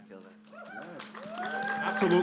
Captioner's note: cheering